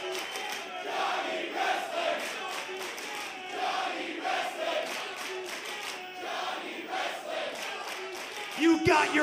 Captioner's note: crowd cheering